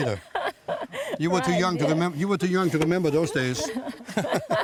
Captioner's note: laughs